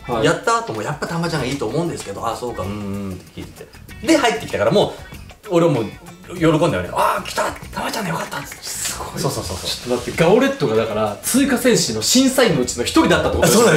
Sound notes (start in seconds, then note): 7.2 claps